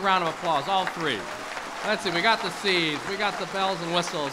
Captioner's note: applause